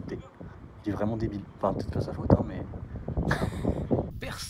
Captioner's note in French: rires